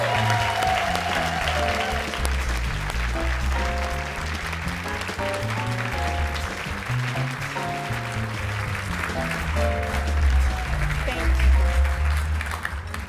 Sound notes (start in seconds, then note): 2.2 cheering and Applause